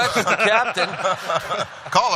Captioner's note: laughter